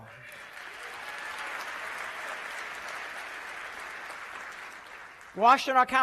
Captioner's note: applause